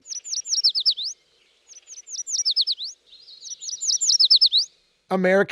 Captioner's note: bird song